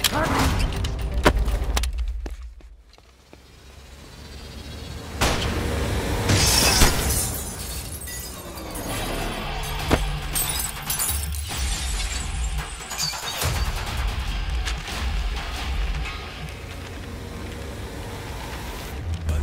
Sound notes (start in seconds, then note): 1.2 Thud on ground; 5.2 Gun shot; 6.3 Glass breaking